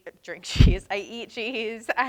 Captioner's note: chuckles